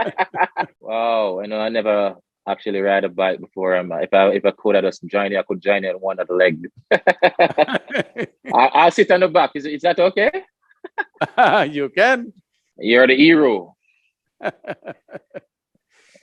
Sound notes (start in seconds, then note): 10.8 laughs